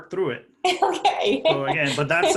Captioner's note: laughing